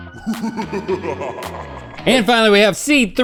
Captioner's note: foreboding laughter